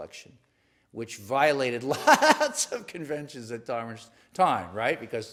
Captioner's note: laugh